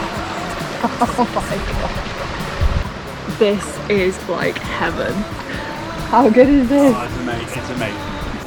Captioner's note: laughing